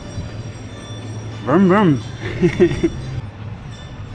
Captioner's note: laughing